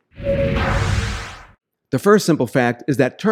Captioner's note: whooshing